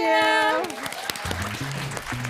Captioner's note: applause